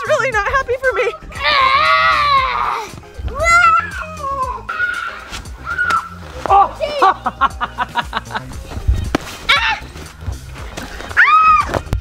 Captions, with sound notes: - This is really not happy for me. (laughing) - Ah. (screams)